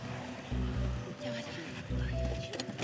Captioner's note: spanish